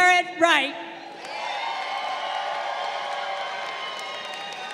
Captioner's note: crowd cheering